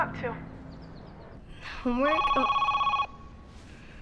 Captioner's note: phone rings